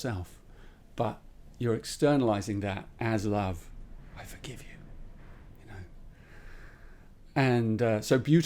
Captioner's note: whispers